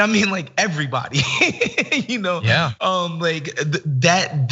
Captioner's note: laugh